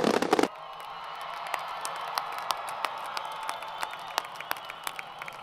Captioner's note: crowd Cheering & Applause